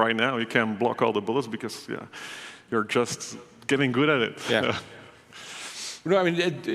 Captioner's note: laughs